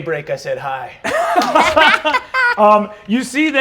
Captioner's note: laughter